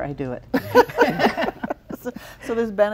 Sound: laughing

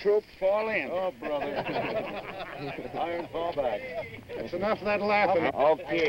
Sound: laughing

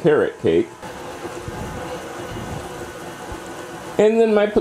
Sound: mixing sounds

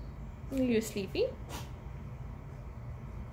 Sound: kitten sneeze

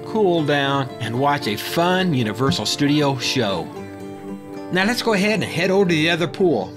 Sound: another mic bump

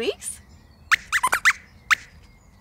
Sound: squeaks squeaks

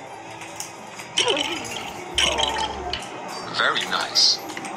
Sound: breaking apart

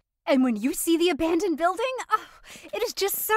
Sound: happy sigh

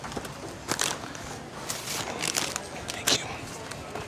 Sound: packaging crinkling

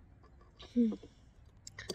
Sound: laughs

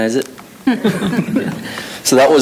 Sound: people chuckling

